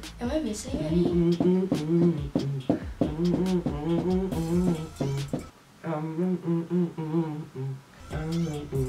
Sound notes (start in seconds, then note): 0.4 humming